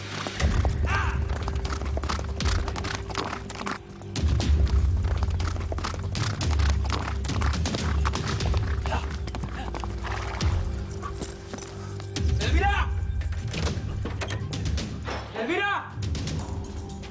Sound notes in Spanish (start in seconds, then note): 0.1 Relinchos; 3.5 Galope; 10.7 Resoplidos